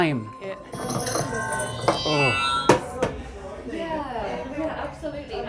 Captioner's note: futuristic activation sound